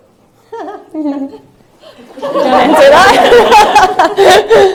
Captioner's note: laughter